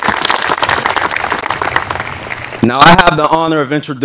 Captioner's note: applause